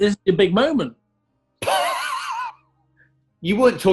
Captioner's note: sniggering